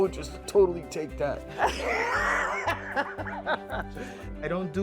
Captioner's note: laughter